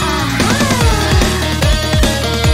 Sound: ahaaaa

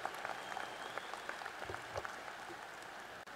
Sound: applause

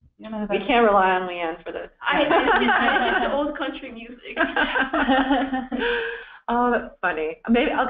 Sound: laughter

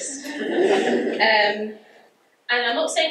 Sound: audience laughs

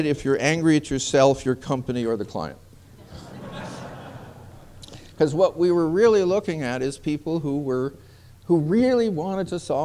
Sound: laughter

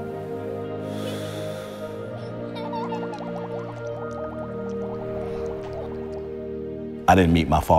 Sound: sound of bubbles; Joseph’s daughter’s laughter

